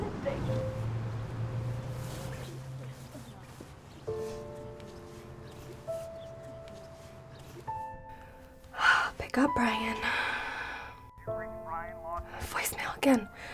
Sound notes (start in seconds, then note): 2.5 gentle music; 10.0 sighs